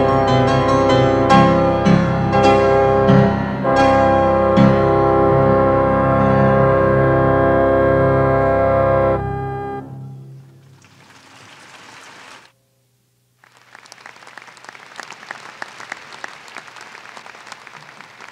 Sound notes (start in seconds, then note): 10.3 applause